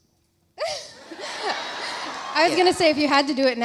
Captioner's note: Alexis laughs; audience laughs